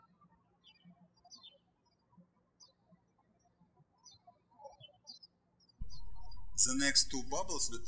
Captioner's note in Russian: птички щебечут